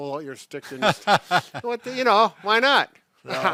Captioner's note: laughs